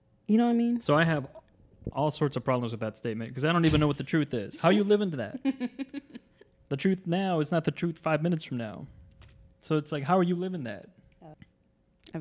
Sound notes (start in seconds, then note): 4.4 laughs